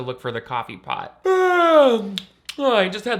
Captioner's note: yawning; lips smacking